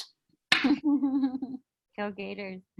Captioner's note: laughing